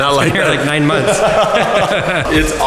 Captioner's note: laughing